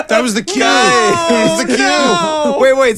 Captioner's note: laughing